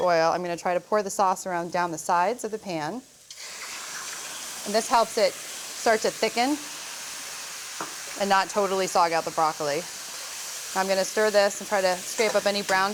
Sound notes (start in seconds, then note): 2.9 sizzling